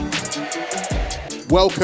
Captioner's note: audience cheers